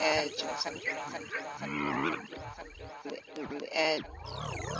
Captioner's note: tape rewinds and repeats